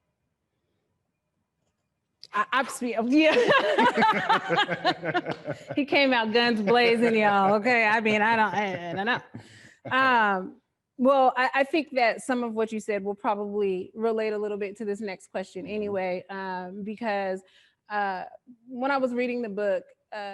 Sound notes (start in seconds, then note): 3.2 laughing